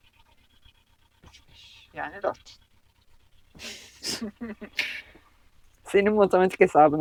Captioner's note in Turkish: kahkaha